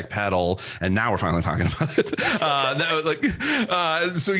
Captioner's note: laughs